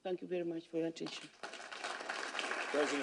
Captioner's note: applause